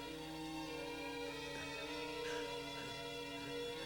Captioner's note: sobbing